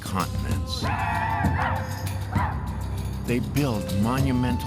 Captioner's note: chanting